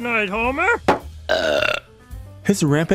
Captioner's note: burp